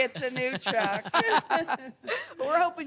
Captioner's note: laughter